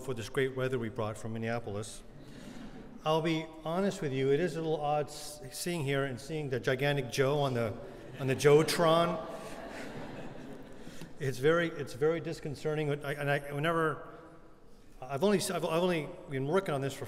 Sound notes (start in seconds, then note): 7.9 laughter